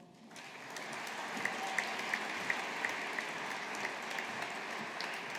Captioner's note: audience applauding